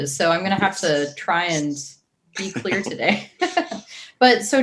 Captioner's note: chuckles